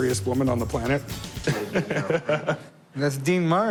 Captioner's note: chuckles